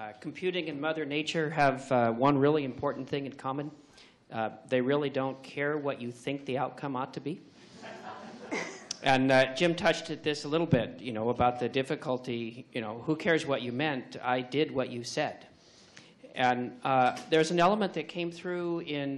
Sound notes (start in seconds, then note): 7.8 laughs